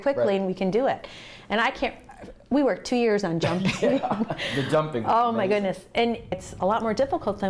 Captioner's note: laughter